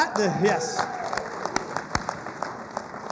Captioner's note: applause